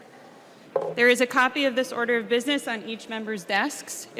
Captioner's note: gavel